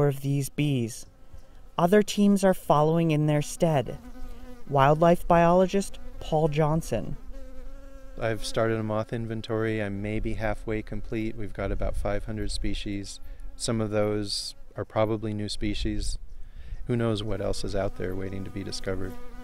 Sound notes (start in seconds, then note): 6.8 buzzing